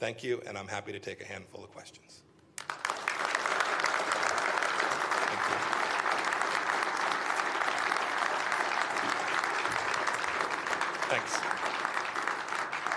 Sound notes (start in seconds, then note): 7.7 applause